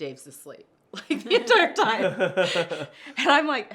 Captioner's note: laughter